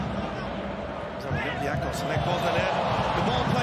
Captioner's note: crowd cheering drowns out speech